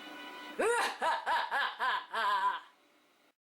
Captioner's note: maniacal laughter